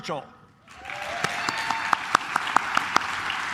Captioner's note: claps